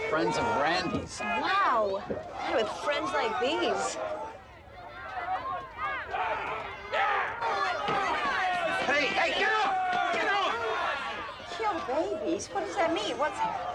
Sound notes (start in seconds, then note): 4.1 crowd shouting